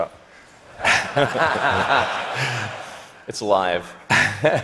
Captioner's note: laughter